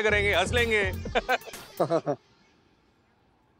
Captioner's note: chuckling